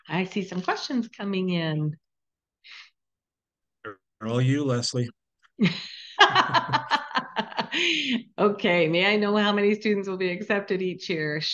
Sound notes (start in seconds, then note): 5.6 laughing; 6.2 chuckling